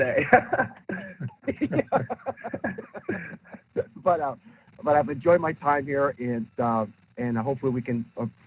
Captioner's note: laughter